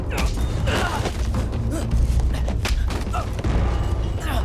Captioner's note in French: grognement bruyant